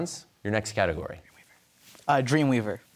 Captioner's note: whispers